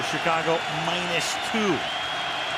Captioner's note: crowd cheering